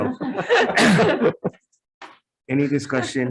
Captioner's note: group laughs